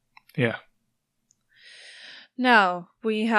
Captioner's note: sighs